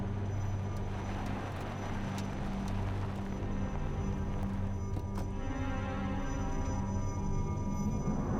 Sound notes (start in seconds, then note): 2.3 aircraft noise